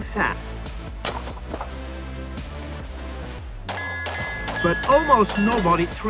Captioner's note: dramatic music; gun firing